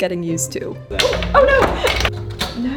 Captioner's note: machine part clatters